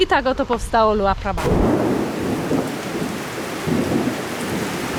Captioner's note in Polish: Thunder and rain